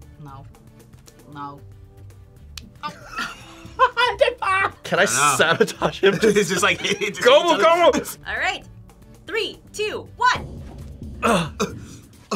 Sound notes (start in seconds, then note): 2.8 laughs